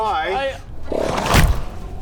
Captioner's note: thwack